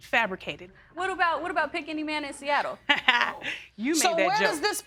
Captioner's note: laughs